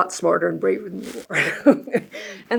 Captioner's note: chuckles